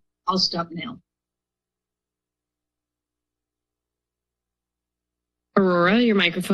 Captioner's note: silence